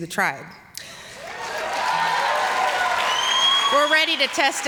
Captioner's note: applause